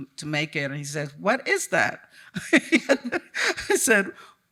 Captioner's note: chuckles